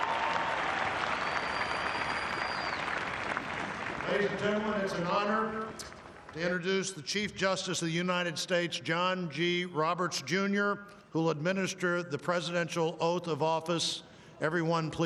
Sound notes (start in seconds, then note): 1.6 cheering; 2.0 applause